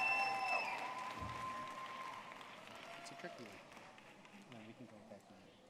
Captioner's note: audience clapping and cheering